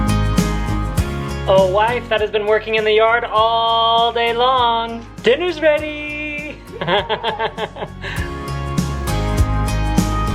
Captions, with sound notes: Oh, wife that has been working in the yard all day long. Dinner's ready! (laughs)